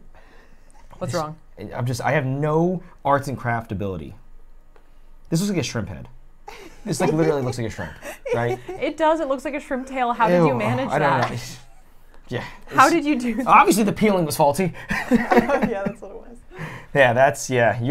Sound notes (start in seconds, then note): 6.4 laughs; 14.8 laughs